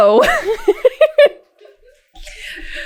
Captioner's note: laughter